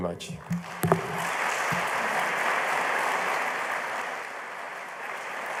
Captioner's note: applause